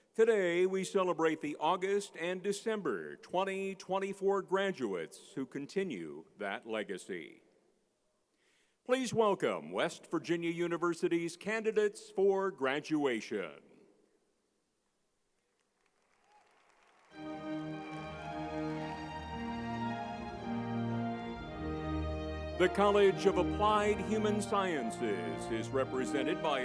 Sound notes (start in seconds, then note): 15.4 crowd applauding; 17.1 spirited classical music